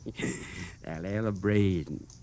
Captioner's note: chuckles